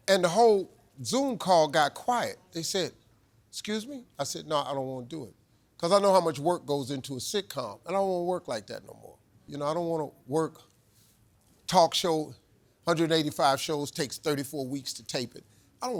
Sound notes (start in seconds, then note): none